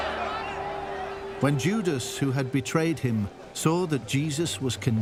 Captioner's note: crowd cheering